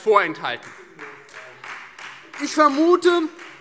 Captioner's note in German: Beifall Freie Demokraten